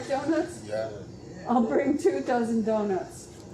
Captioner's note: people murmuring in agreement